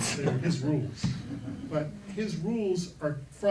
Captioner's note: laughing